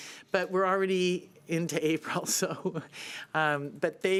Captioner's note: chuckling